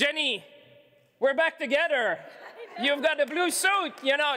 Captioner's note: laughter